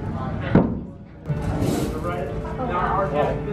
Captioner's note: door thuds